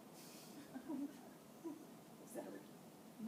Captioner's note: laughing